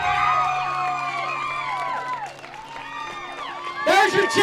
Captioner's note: cheering